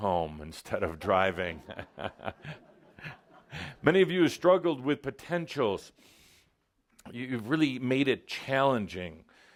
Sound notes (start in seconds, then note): 1.6 Adamus chuckles